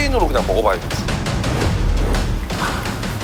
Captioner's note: sniff